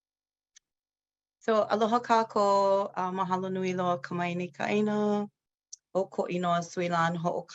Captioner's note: speaks in foreign language